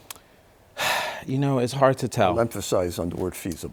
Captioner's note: sighs